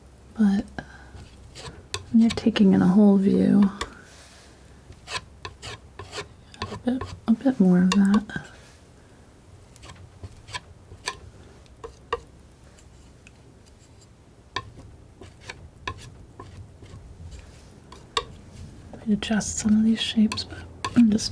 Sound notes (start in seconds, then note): 9.1 tapping